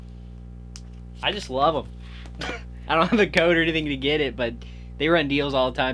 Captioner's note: laughs